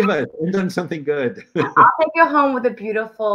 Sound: laughter

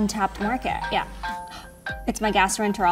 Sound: phone ringing

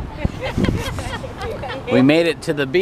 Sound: laughing

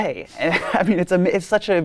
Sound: laughs

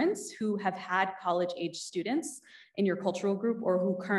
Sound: none

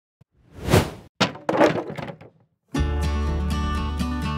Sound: wood Breaking

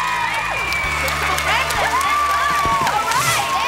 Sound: cheering

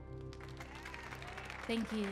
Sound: audience cheering

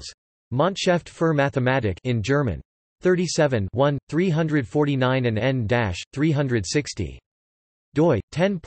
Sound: in German

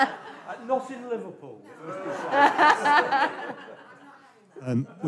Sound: laughter

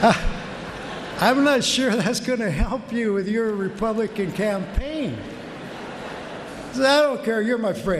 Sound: laughter

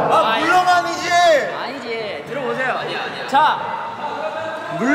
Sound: is shouting again

